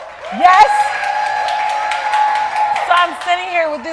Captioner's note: audience cheering